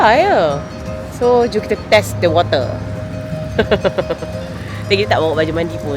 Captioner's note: laugh